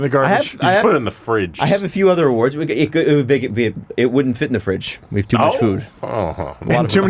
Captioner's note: stuttering